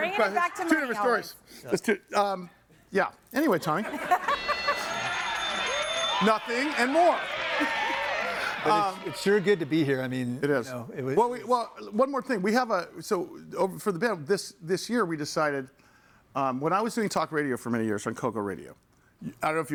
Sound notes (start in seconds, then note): 3.9 laughs; 3.9 bell rings; 3.9 audience cheers